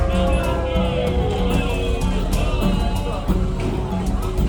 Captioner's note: people cheer